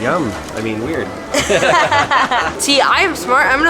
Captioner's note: laughter